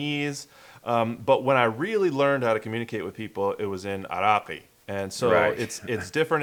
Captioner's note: Arabic